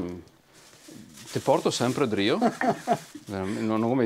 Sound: laughter

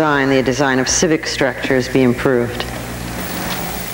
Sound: none

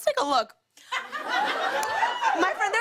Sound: laughter

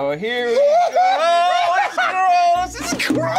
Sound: screams

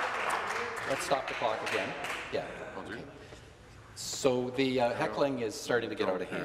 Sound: some Applause

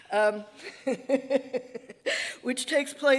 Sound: laughing

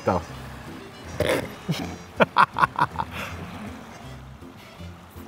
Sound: both men laughing

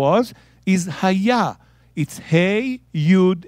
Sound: speaking in Hebrew

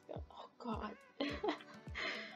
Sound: laughs

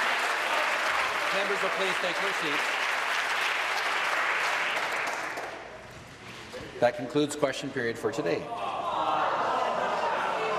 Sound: applause

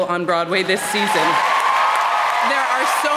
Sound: crowd cheers

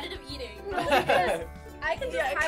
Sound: laughing

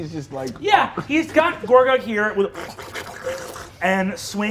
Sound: sucking sounds

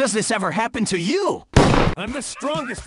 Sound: gunfire

